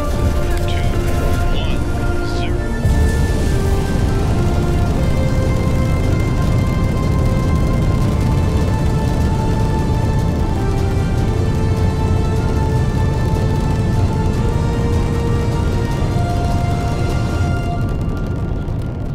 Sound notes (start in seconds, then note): 2.8 shuttle blasting off